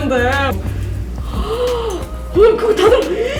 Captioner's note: gasps